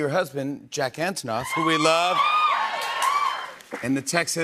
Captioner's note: cheers and applause